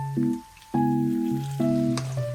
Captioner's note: plop... plop